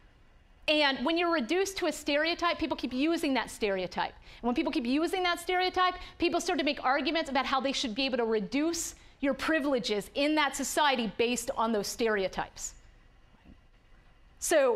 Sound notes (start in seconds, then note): none